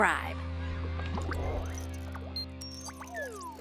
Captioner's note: water burbling